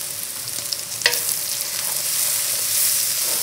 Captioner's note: sizzling